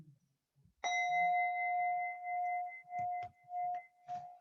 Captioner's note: bell chimes